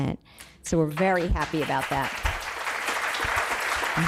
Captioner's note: applause